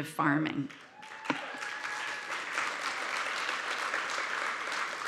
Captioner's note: audience applauding